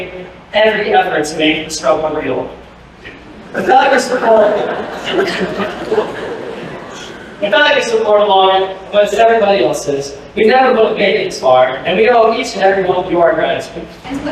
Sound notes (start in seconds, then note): 3.2 laughter